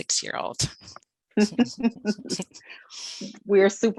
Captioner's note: laughing